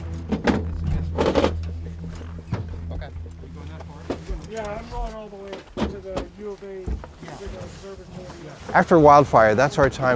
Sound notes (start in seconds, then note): 0.0 metal scraping; 3.1 people chattering